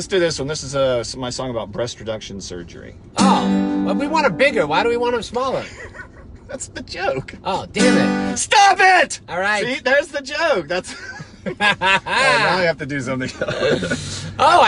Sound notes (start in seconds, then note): 5.6 laughs; 10.9 laughs